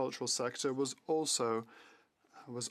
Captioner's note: speaking French